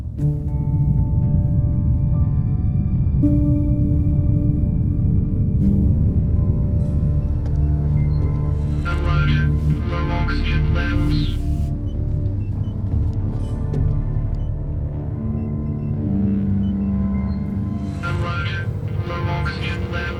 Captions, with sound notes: (dramatic music) Alert. Low oxygen levels. (dramatic music) (machines beeping) Alert. Low oxygen levels.